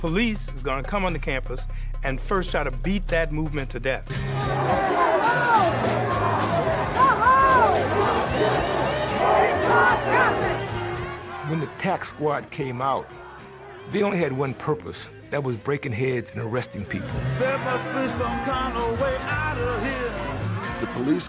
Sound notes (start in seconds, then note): 4.0 tense music; 4.2 general shouting